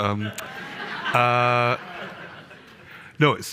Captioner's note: audience laughing